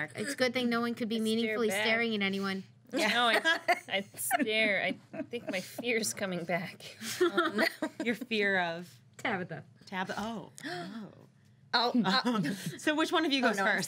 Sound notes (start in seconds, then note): 3.0 girls laughing